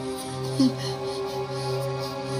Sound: whimpers

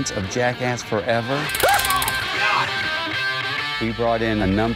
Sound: electricity crackling

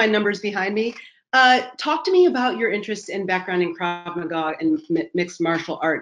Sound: voice muffled

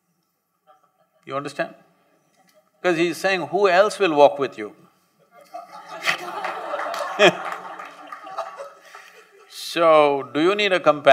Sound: laughter

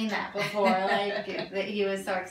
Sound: laughs

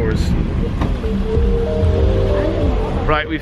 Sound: car door closes

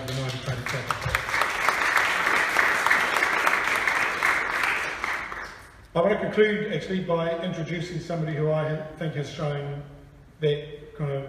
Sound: applause

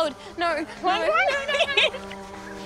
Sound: both laughing

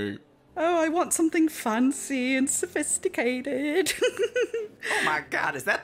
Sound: giggles

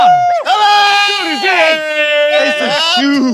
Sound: sound of cheering

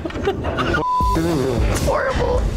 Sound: laughs; beeps

